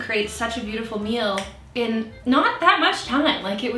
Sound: clicking

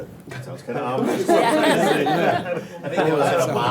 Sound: laughs

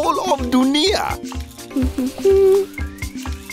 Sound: humming

